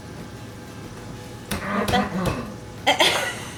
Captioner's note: clears throat